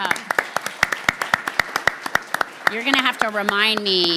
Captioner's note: people clapping